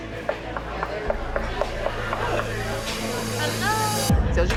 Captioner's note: knocking